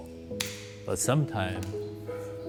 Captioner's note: scissors snipping